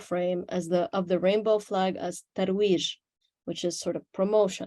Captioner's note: speaks Arabic